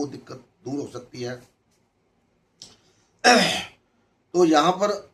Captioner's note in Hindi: गला साफ़ करने की आवाज़